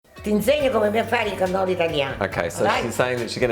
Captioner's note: speaking Italian